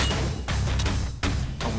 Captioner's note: gunshot; voice-over